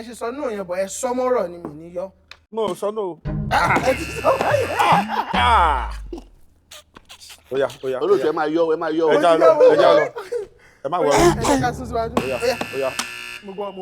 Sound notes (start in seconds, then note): 3.5 buzzer sounds; 12.1 buzzer pressed